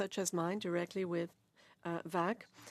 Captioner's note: speaking French